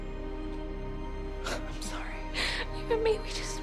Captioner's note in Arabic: تنهدات